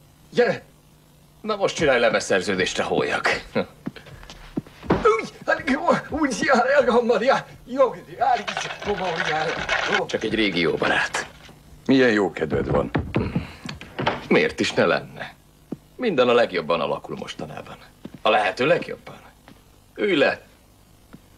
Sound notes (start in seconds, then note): 3.0 backward-speak yelling